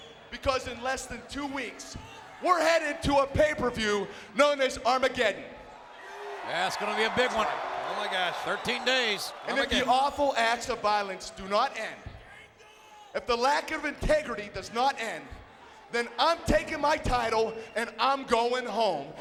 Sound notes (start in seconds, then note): 5.8 audience cheering